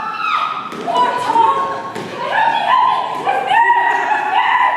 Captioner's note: Fool squeals